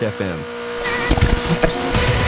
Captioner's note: radio tuning sounds 2: Radio strikes back